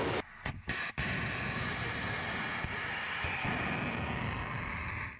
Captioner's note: missile roaring; missile hissing